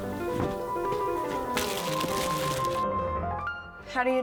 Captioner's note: bags rustle